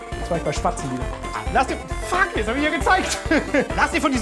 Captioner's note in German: lacht